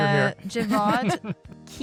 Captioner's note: laughter